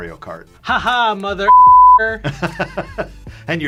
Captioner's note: beep; laughs